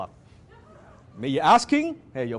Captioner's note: audience laughs